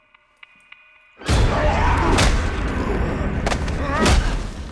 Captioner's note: ominous music; growling; fight sounds